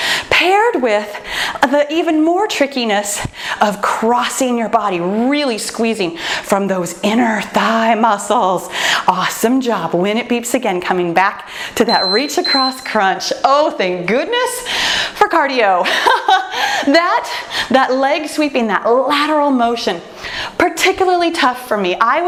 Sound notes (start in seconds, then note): 11.8 timer beeps; 15.8 laughs